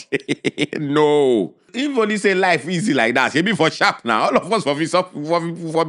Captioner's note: laughs